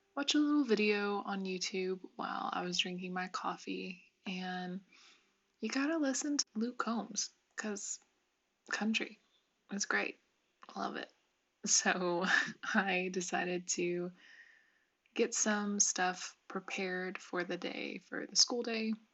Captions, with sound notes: watch a little video on YouTube while I was drinking my coffee and you gotta listen to Luke Combs cause... country. It's great... I love it... So, [CHUCKLE] I decided to get some stuff prepared for the day - for the school day